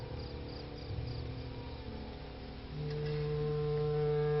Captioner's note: insects chirping